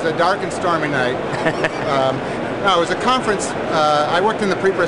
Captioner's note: laughs